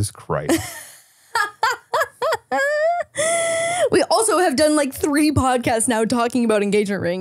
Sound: laughing

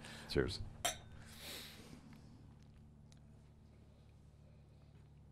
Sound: glasses clinking

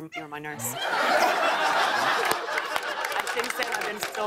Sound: laughter and applause

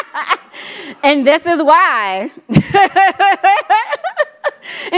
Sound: laughs

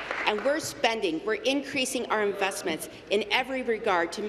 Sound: applause

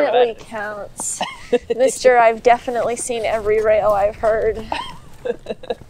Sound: laughs

